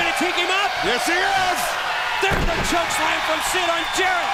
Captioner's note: crowd cheering